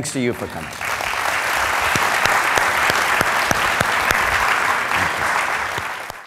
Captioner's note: applause